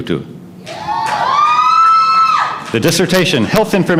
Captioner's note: cheering